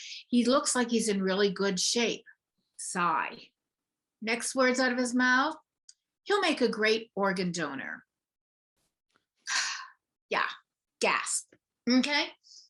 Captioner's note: sigh